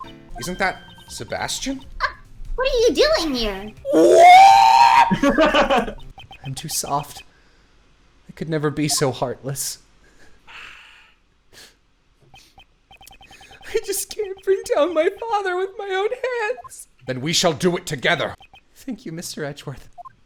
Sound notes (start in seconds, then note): 5.0 laughter